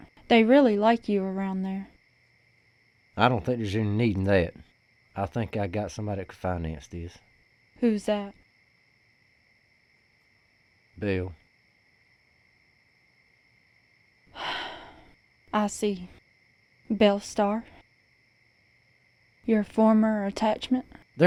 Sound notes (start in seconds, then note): 14.3 sighs